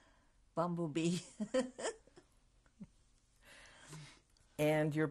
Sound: laughs

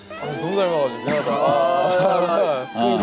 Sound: apologizing

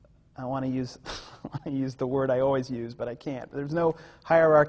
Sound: laughs

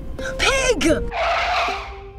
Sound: car skids

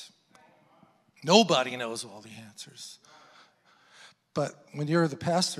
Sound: congregants affirming

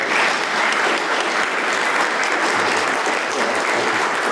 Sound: applause

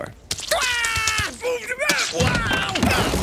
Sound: yelling; grunts

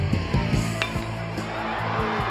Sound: clank; crowd cheering

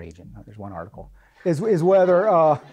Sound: laughing

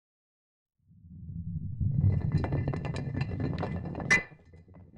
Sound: rock rolling

